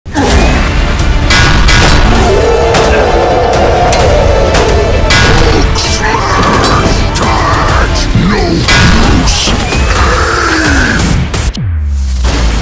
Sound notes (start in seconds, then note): 1.4 weapons clanging; 2.0 roaring